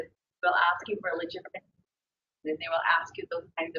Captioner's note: audio warps